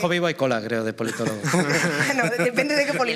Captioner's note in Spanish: todos ríen